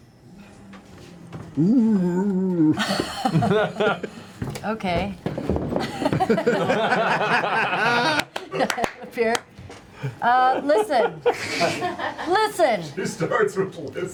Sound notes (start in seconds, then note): 5.8 laughter